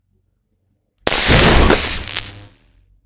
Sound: electric Sound

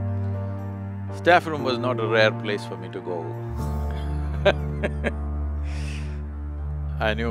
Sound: laughs

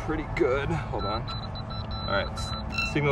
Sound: beeping

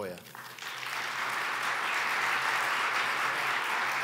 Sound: audience applauds

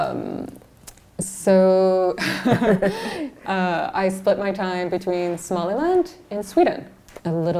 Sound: laughs

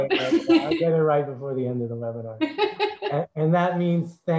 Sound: laughs; laugh

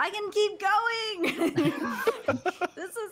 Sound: laughing

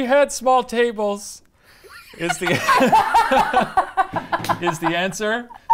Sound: laughing

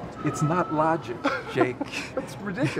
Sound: laughs

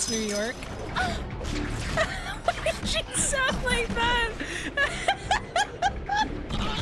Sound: Black Cat moans; laughing

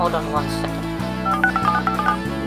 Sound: dialing

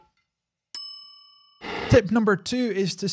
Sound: ding

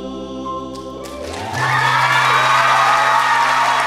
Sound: audience clapping

